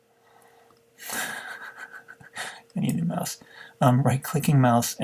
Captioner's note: chuckling